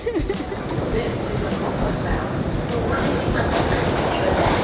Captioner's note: laughs; subway clicking